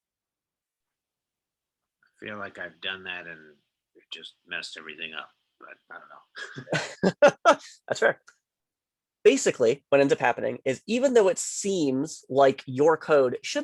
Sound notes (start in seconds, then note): 2.0 bold Voice